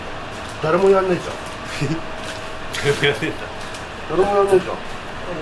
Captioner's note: laughs